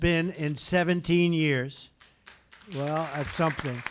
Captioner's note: applause